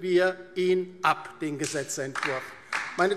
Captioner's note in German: Beifall DIE LINKE